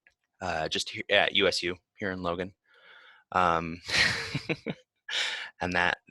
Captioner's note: laughs